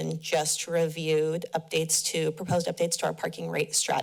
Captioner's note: none